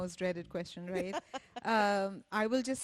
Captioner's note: laughing